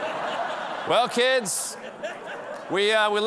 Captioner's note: laughter